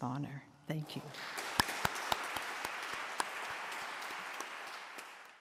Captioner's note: applause